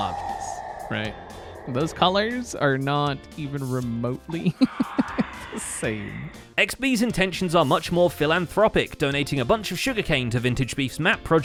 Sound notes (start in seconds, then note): 4.4 laughs